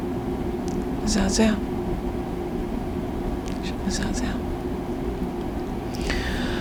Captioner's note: hebrew; sighing